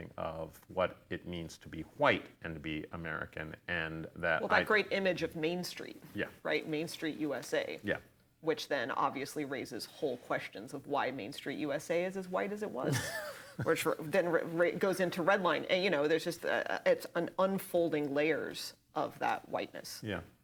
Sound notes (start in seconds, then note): 12.9 laughing